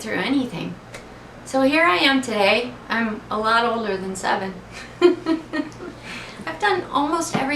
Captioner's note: laughs